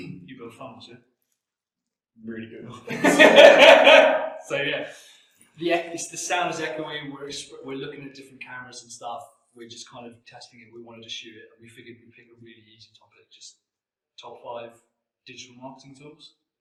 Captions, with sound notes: - You build phones, yeah? - Really good. (both laugh) - So yeah, the, it's the sound is echoey, we're, we're looking at different cameras and stuff. We're just kind of testing it. We wanted to shoot it and we figured we'd make it really easy talking about, just, top five digital marketing tools.